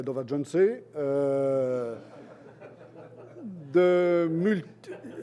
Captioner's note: laughter